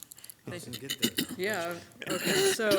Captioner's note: overlapping chattering; laughs